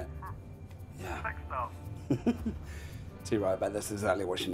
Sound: laughing

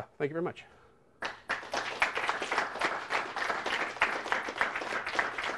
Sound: applause

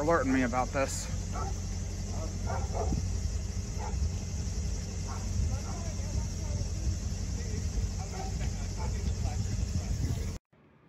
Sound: indistinct chatter and dog barking loud

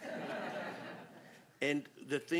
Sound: laughter

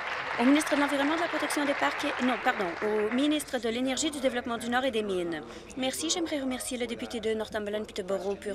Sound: applause

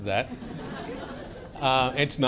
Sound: laughter

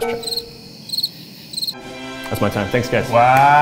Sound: crickets chirping

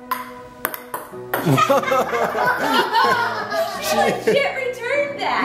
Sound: giggle; laughing

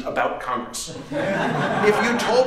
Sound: laughter

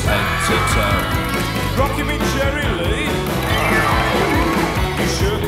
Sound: aaaaah

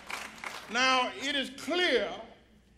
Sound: applause

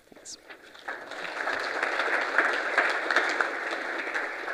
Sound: audience applauding

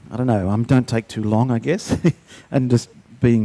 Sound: chuckles

